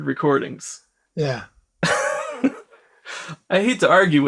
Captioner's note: laughs